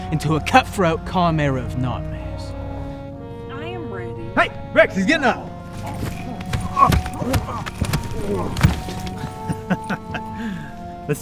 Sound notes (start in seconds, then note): 7.0 groaning; 7.0 thumping; 9.5 chuckling